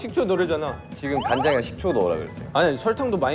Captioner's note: quarrelling